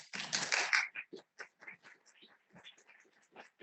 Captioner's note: applause